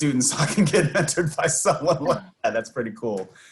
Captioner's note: laughs